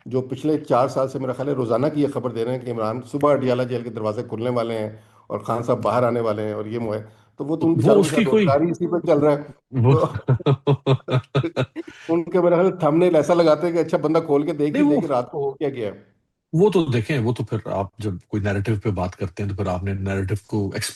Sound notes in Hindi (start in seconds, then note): 9.9 हंसी